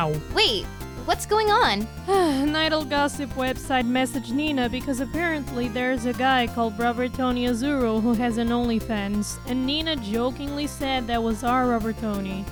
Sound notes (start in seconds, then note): 2.1 sighs